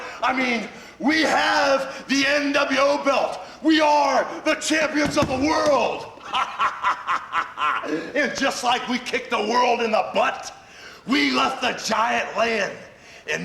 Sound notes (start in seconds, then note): 6.2 laughs